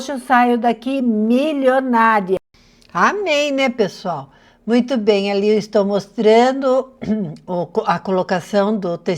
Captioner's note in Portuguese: limpando a garganta